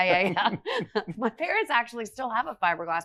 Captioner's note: laughs